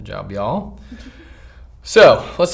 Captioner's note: giggles